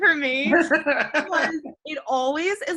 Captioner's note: laughs